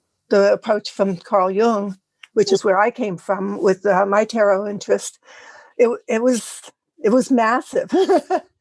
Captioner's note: laugh